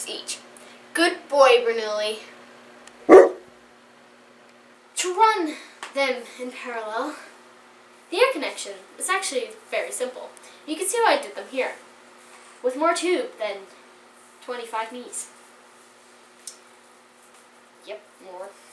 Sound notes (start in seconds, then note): 3.0 off-screen bark